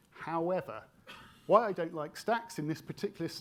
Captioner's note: attendee coughing